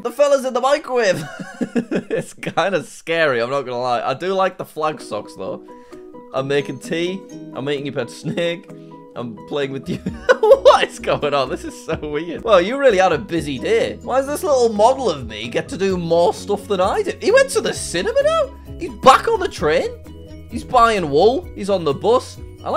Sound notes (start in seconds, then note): 1.2 laughs; 9.9 laughs